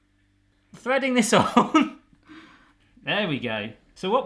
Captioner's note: laughing